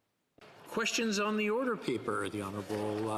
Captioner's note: speaking French